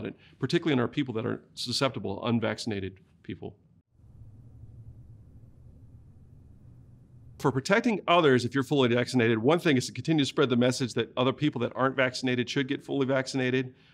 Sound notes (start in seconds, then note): 3.7 silence